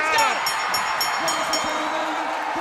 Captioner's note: bell ringing